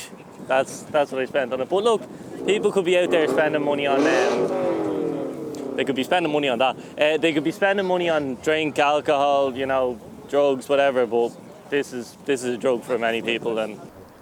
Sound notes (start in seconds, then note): 5.7 nearby engine Revs up